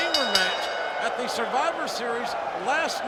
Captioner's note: bell rings